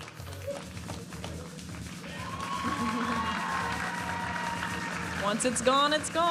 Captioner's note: audience applauding and cheering